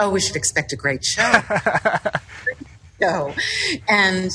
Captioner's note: laughs